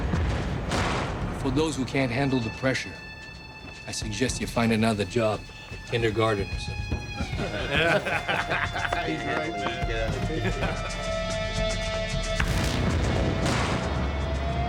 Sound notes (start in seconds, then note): 0.3 dramatic music; 6.7 bikers laughing; 11.8 dramatic music